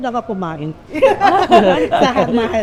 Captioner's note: laughs